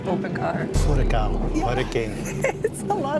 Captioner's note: in Portuguese and English